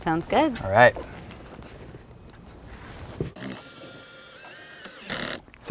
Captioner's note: drill whirring, no additional audio